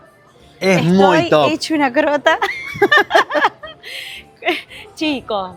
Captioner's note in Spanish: risas